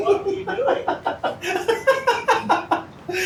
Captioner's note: laughs